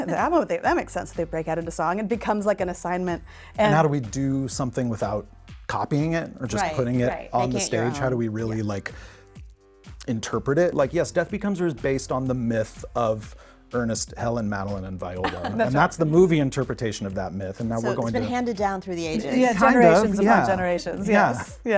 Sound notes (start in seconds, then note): 15.2 laughing